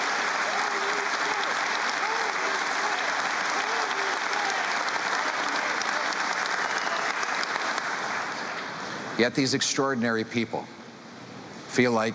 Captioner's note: cheering and Applause